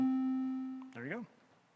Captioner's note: machine beeping